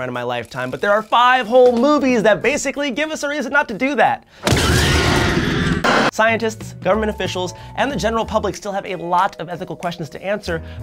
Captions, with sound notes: in my lifetime, but there are five whole movies that basically give us a reason not to do that. (dinosaur roaring) (children screaming) Scientists, government officials, and the general public still have a lot of ethical questions to answer